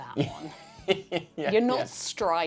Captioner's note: laughs